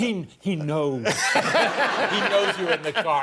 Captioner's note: laughter